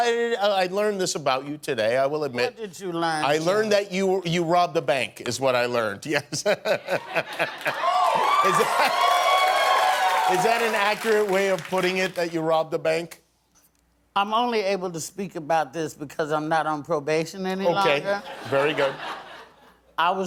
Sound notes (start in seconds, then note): 6.2 laughter; 7.5 cheering